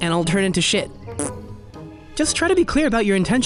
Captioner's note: blows raspberry